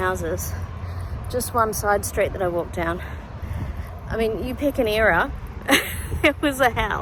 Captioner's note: scoffs